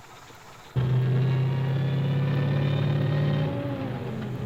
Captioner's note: engine revs